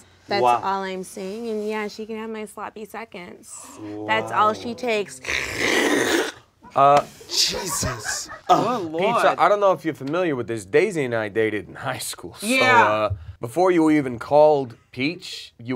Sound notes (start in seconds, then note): 5.2 Peach slurps